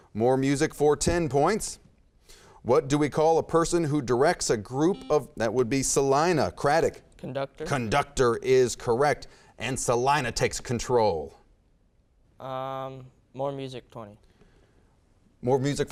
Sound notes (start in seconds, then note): 4.8 beeping